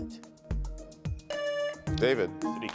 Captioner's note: buzzer buzzing